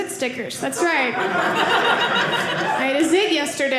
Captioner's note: audience laughing